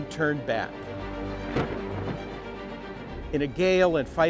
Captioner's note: suspenseful music; thunder rumbling